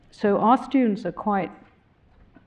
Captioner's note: none